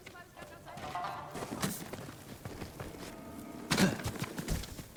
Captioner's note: grunting